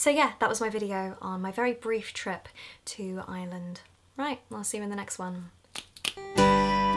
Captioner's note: clicks fingers